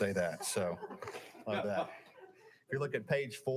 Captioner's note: audience laughing